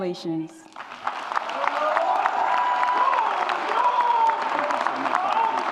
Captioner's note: audience applauds and cheers